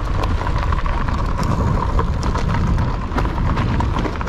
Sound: bike's motor thrumming

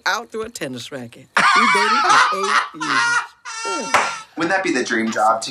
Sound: Trixie and Katya laughing

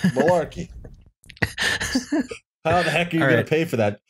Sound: laughter

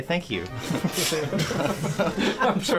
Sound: laughter

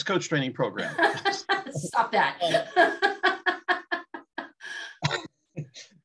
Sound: laughter

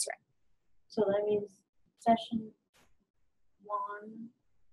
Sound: voiceover

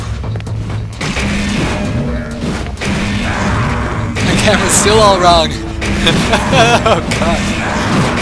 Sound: gunfire and monster roars

